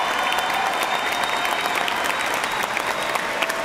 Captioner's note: cheers and applause